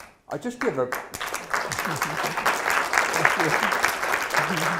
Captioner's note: applause